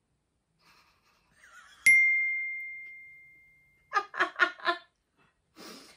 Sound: can't control her laughter

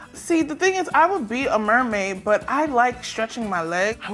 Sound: none

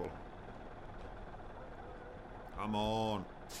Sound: tractor engine running

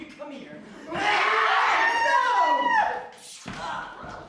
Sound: Mr.-Piglet-attacking-a-passerby noises

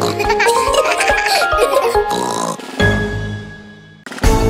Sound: snorts

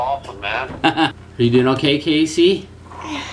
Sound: laughs

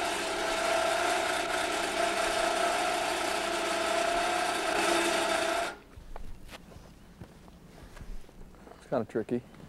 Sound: electric motor sounds

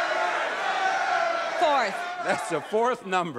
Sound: audience yelling

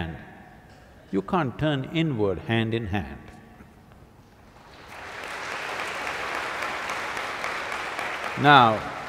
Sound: applause

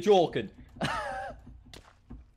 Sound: said with an undertone of aggression and with british dialect

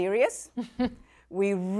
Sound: chuckles

